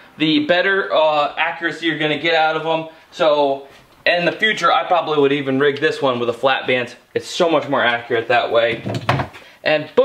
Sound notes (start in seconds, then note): none